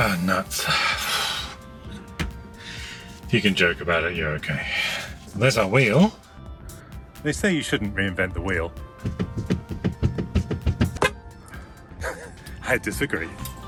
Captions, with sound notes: Ah, nuts, if you can joke about it, you're okay. There's our wheel. They say you shouldn't reinvent the wheel- (horn honks) I disagree.